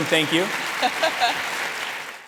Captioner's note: audience applauding